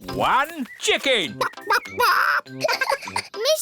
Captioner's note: clucks; giggles